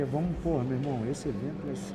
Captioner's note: speaking Portuguese